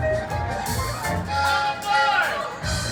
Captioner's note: train horn honks